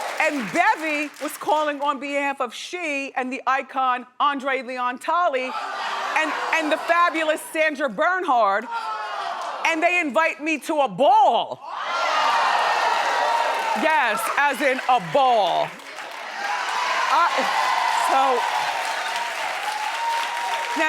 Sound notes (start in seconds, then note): 12.5 audience cheering; 17.8 audience cheering